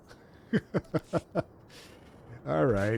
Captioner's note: laughs